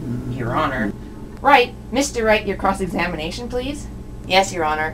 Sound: stops humming

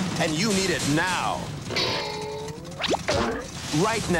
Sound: cartoon sound effects: boing! plop!

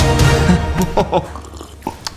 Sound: chuckles; slurp

